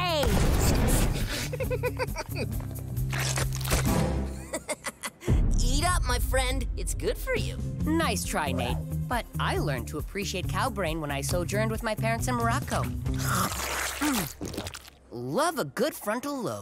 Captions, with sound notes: [giggling] [laughing] Eat up, my friend. It's good for you. Nice try, Nate, but I learned to appreciate cow brain when I sojourned with my parents in Morocco. Mm. Love a good frontal lobe.